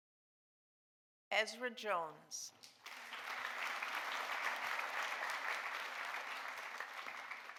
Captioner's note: audience applauding